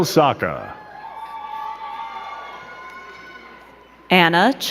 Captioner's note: crowd cheering